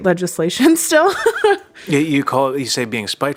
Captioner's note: laughs